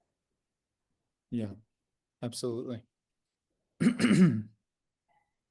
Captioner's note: clears throat